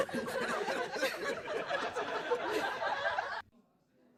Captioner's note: loud laughing in crowd